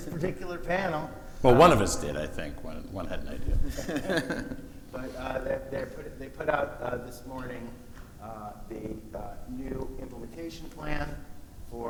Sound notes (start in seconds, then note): 2.9 laughing